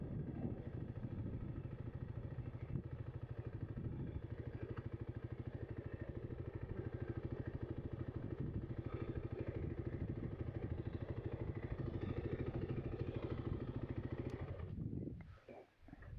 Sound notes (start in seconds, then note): 3.3 motor rumbling